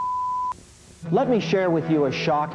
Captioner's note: signal tone